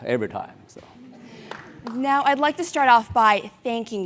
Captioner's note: applause